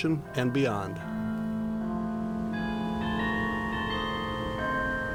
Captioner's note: bells chime